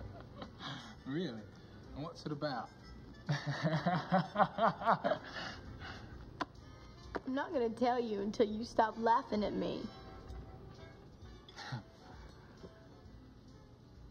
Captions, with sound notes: Really, what's it about (chuckling). I'm not gonna tell you until you stop laughing at me.